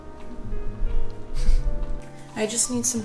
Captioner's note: laughs